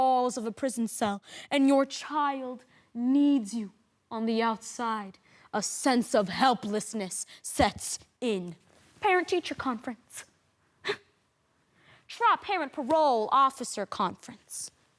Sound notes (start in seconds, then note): 11.7 sharp breath